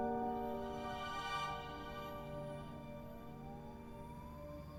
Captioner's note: distant siren blaring